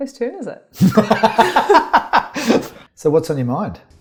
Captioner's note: laughs